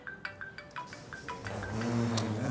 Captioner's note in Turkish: cep telefonu çalar